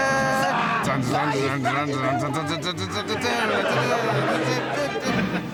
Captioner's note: sir digby hums ''devil's gallop'' by charles williams